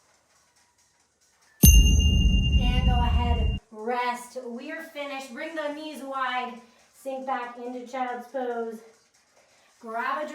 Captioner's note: ding